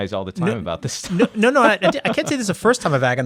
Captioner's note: laughs